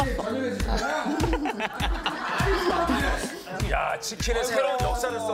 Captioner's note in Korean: 웃음소리